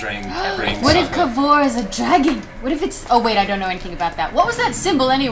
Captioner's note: gasps